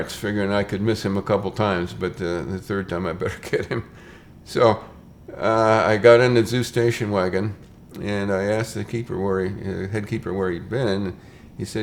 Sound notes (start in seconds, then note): 3.2 chuckles